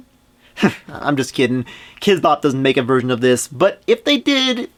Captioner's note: laughs